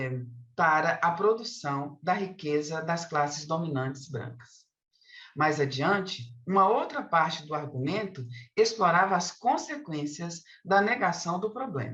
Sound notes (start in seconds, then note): 6.8 continues speaking in Portuguese